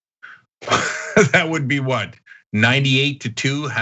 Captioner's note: laugh